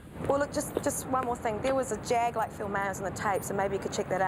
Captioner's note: none